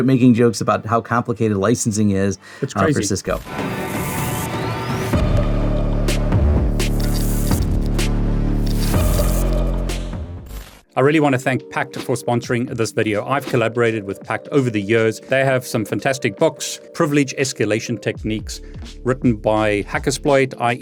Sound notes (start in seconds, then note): 4.6 dramatic music; 6.6 logo crackling